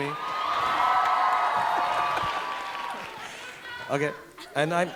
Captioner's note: audience cheering